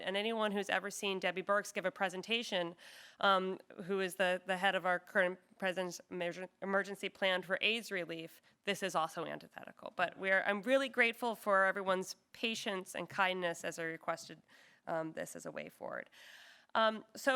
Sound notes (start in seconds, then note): none